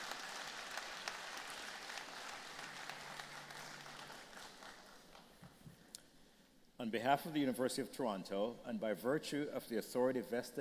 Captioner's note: applause